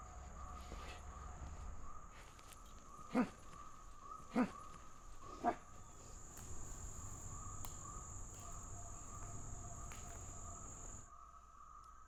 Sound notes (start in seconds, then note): 3.4 Dogmouth grunting angrily; 7.7 animals chattering and whooping